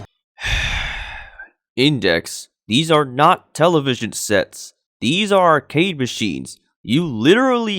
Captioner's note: sighs